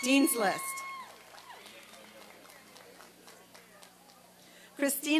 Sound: applause and cheering

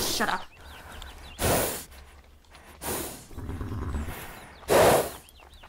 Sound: heavy breathing

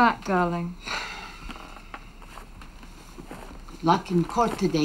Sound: Jake sighs

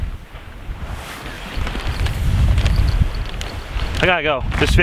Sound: bells jingling

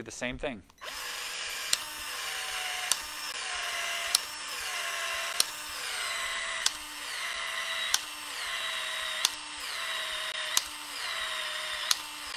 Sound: tool whirring

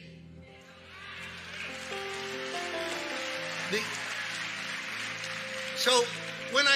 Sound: congregation clapping and cheering

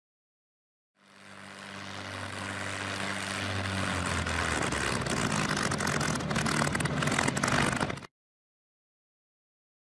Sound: aircraft engine sputtering to a stop as it gets closer

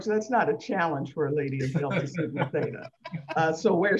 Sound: laughs

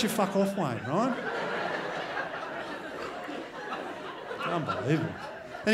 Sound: crowd laughs

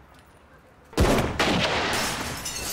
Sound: gunshots

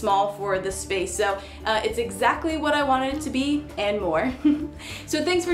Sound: chuckles

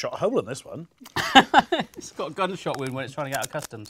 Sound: laughs

